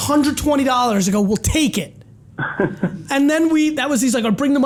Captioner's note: laughs